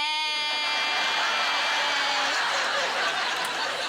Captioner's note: laughter